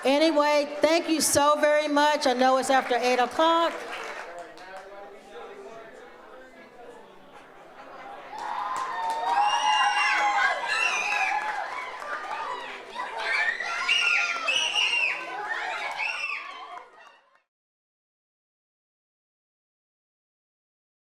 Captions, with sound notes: Anyway, thank you so very much. I know it's after eight o'clock. (audience chattering) (audience cheers)